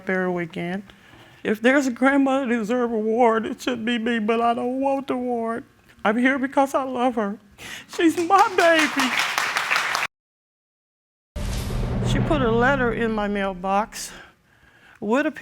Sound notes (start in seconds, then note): 7.7 applause